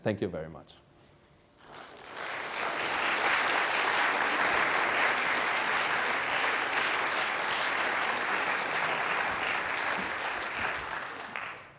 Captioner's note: applause